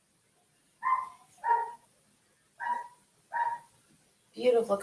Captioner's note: dog barking